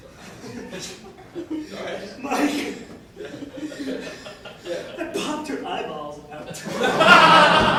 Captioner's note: out of breath